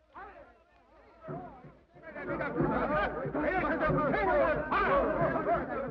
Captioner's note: men chatter in foreign language